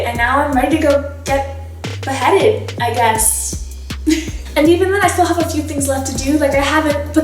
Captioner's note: laughs